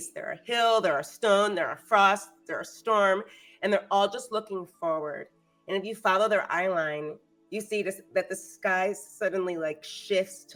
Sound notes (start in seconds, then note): none